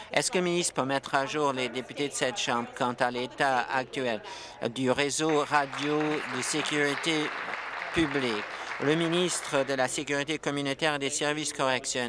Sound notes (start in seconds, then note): 7.4 applause